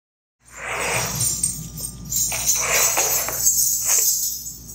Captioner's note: chain clanking